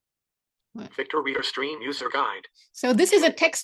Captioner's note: Synthetic voice